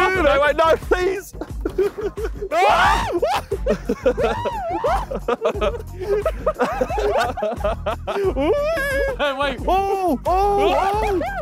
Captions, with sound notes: - Wait. No, please. [people laughing] [people screaming] - Oh, wait.